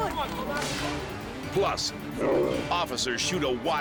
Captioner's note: bear growls